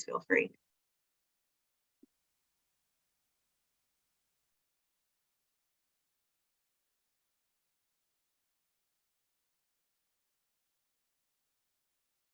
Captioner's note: silence